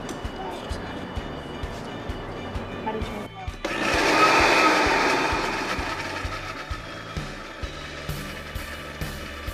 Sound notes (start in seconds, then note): 3.6 blender whirring